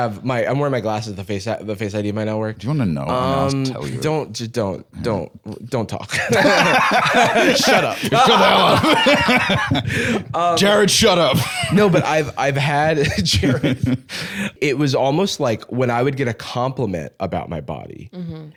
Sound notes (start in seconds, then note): 6.1 both laughing; 13.5 laughs